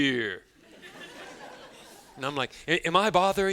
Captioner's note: students laughing